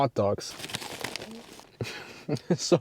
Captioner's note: bites